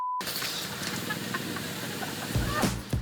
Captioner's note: laughs